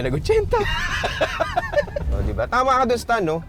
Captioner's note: both laughing